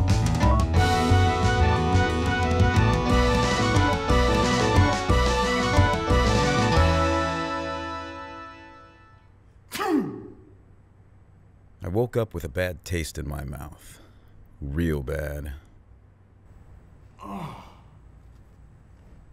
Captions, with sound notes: (sneezes) I woke up with a bad taste in my mouth. Real bad. (groans)